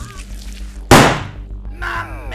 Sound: gun shot

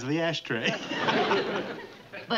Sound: laughs

